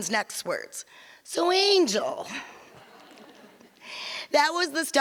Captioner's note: audience laughs